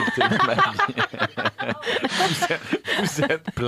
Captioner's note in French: rires